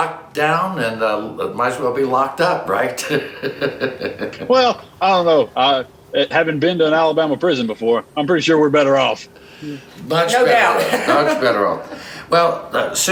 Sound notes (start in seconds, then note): 3.0 chuckling